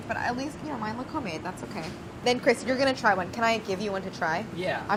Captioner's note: none